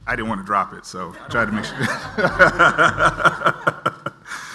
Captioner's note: laughs